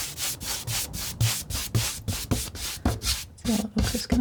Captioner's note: tapping